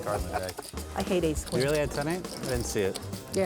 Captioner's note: laughing